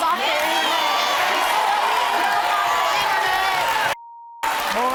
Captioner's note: audience cheering